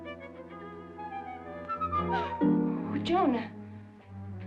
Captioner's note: bright music; gasps